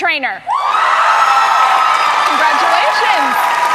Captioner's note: cheers and applause